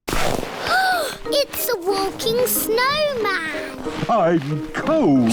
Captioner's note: gasps